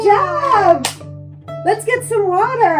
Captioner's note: hands clap